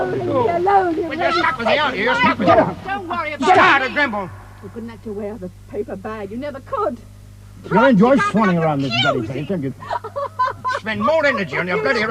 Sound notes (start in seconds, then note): 1.6 people shouting; 9.8 woman sobbing; 10.7 people arguing